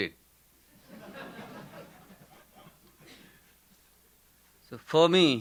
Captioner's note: audience laughing